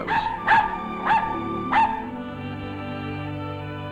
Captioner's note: dog barking